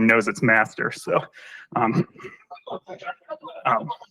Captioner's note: laughter